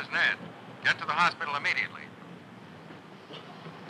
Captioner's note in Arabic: تعليق صوتي